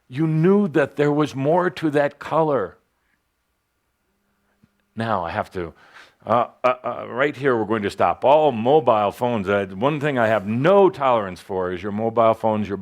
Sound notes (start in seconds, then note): 4.6 a ringer goes off